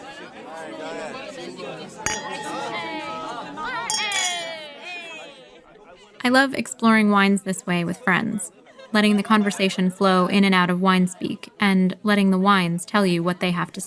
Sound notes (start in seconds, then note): 2.0 clinking glasses and cheers-ing